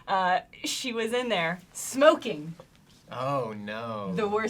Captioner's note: pat